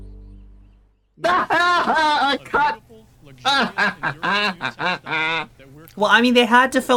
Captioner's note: laughing in insertions